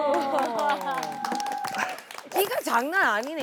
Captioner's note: applause